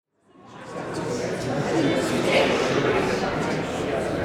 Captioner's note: audience chattering